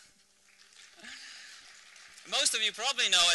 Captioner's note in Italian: applausi